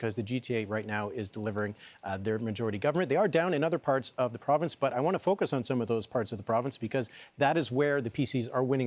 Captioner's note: none